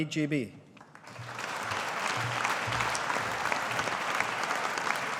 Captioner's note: audience applauding